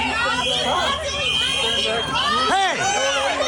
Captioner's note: people clamoring; whistles blaring; people yelling